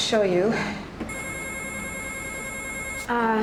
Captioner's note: telephone ringing